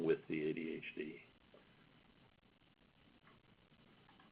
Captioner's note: silence